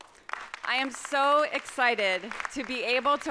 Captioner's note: audience applauds